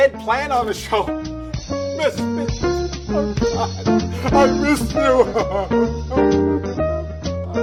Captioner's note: sobbing